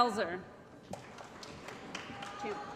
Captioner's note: applause